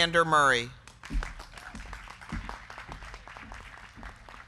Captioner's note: crowd clapping